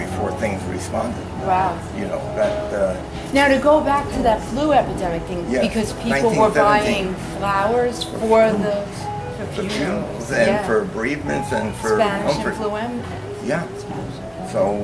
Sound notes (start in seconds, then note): none